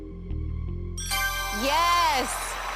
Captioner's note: ding